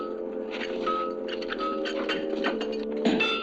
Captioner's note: chains rattling; metal clanging